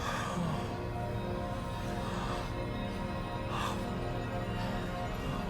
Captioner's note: heavy breaths